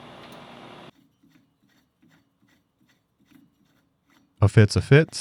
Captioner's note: metal threads scraping